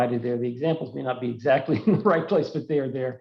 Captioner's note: laughs